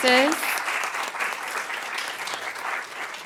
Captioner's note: applause